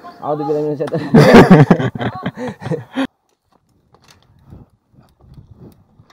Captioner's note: laughs